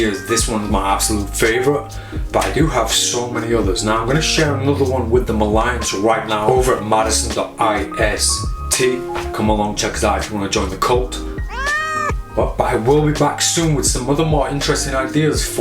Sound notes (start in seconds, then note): 11.4 screeching